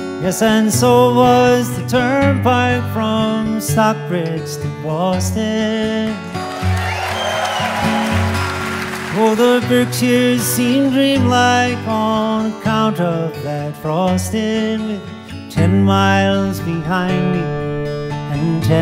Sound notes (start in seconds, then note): 6.4 audience cheering; 6.4 wistful guitar music